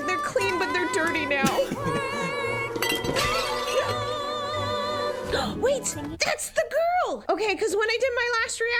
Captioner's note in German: lacht